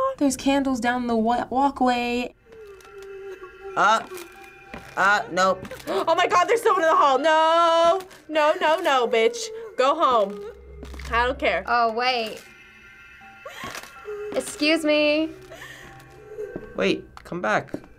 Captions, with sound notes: - There's candles down the walkway. (faint sobbing) - Ah! Ah, nope. - (gasping) Oh my god! There's someone in the hall. Nooooooo! No, no, no, bitch. Go home. I don't care. - Oh wait. (woman sobbing) Excuse me. - Wait, come back.